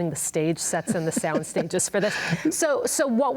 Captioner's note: laughs